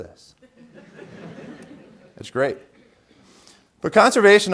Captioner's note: laughter